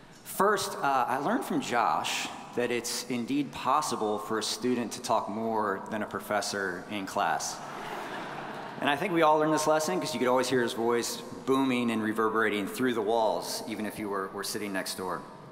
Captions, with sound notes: First, I learned from Josh that it's indeed possible for a student to talk more than a professor in class. (audience chuckling) And I think we all learned this lesson cause you could always hear his voice booming and reverberating through the walls, even if you were sitting next door.